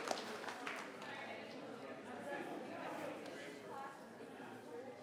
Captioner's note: people chattering